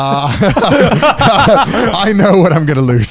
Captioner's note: everyone laughs